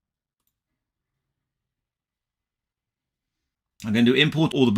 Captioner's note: mouse clicking